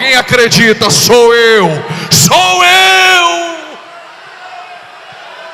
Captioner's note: shout